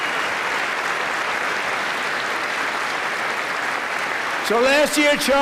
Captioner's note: applause